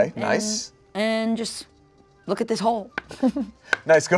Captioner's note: laughs